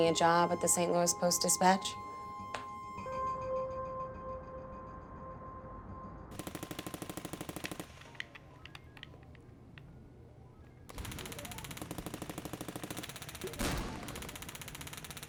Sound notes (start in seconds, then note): 2.8 expressive electronic tone; 6.4 gunfire rattling from video game; 7.5 controller clacking; 10.9 gunfire rattling from video game